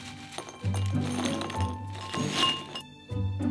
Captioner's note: food dropping